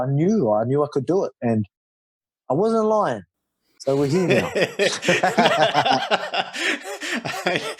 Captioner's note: laughs